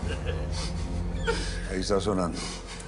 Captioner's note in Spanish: Risas